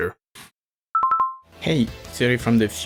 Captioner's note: pause menu sound